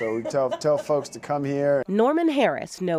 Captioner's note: laughs